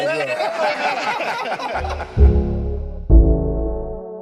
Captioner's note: group laughing; slow upbeat music